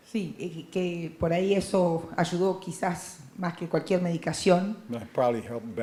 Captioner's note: Spanish language